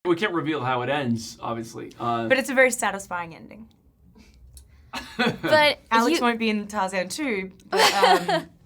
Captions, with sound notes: - We can't reveal how it ends, obviously, uh-- - But it's a very satisfying ending. (chuckling) - But-- - Alex might be in Tarzan 2, but, um...